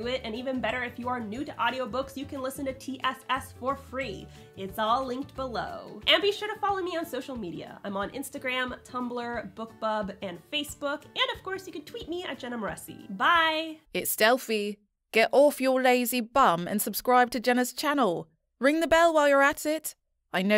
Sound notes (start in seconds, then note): 13.7 confident, Smooth Female Voice